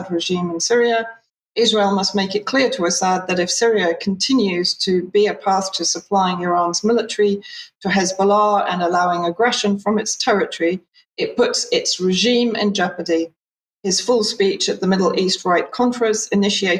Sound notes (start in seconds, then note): 1.1 speaking in Hebrew